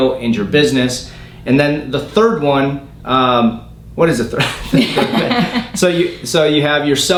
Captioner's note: laughing